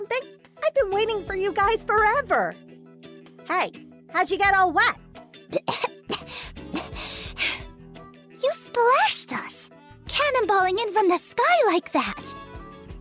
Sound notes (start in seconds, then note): 5.4 cough